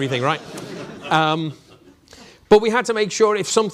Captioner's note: audience laughing